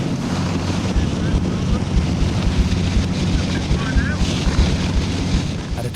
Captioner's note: lifeboat engine whirring